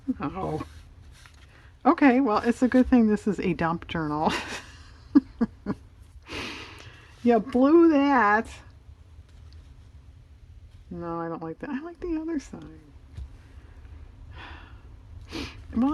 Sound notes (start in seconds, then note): 4.2 laughs